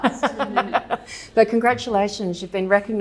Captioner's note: both laughing